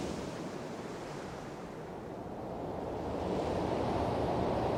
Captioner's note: waves crashing